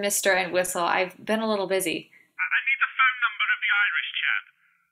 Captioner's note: on phone